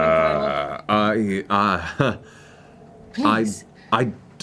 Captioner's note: nervous chuckle